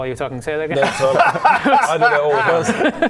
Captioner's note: honest laugh